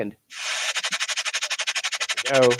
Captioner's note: whirring